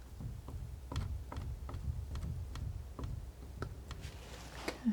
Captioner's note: scratching